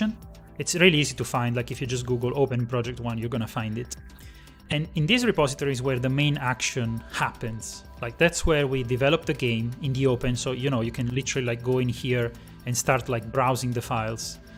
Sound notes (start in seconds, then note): none